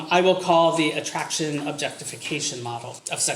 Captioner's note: none